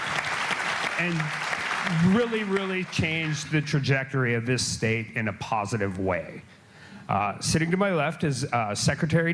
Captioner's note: applause